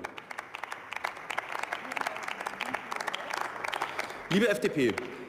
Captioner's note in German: Beifall